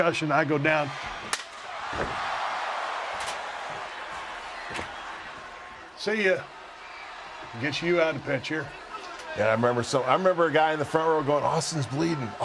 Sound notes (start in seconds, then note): 5.1 applause